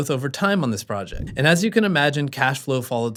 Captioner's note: air whooshing